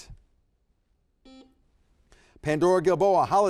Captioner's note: buzzer beeps